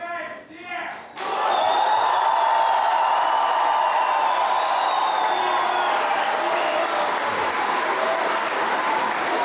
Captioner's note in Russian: ликование толпы